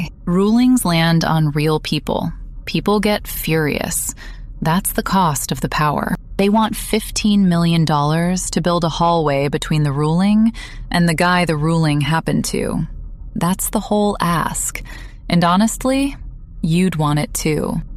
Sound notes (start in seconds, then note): 6.8 breath